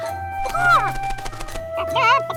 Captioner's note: clucking